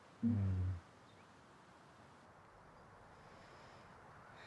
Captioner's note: birds chirping